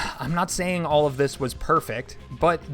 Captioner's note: sighs